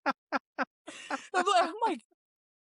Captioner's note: laughing